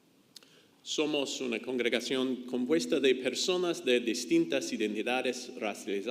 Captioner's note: speaks in foreign language